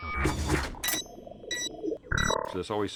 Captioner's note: beeping